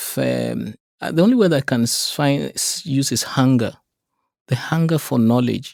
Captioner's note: stutters